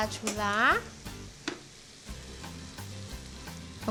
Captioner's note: sizzling